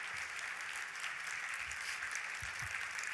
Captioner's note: applause